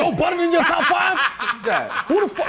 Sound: laughter

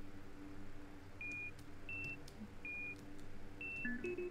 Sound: container beeps

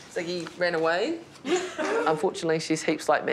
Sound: laughs

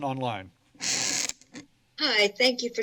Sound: mic noise

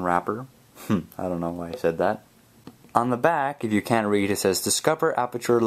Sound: chuckles

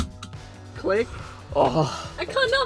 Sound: seatbelt clicks in; groans

